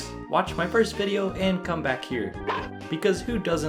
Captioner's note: Boney barks